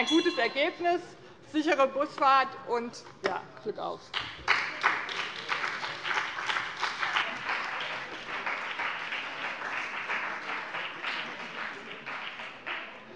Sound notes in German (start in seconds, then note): 4.1 Beifall bei dem BÜNDNIS 90/DIE GRÜNEN und der CDU